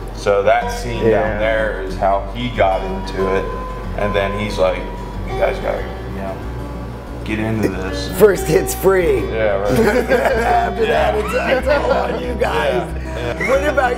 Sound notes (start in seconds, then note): 9.6 all laugh